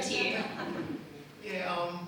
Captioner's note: audience laughs